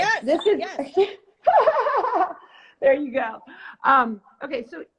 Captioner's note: laughs